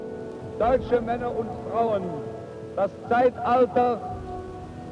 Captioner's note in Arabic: الصوت المنطوق باللغة الألمانية